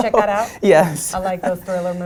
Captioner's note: laugh